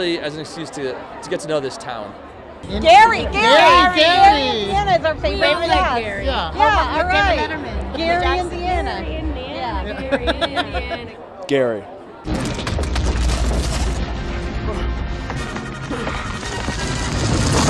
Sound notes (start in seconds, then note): 3.1 crowd; 4.6 crowd talking; 8.4 singing; 12.3 intense music